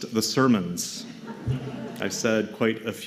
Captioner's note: laughter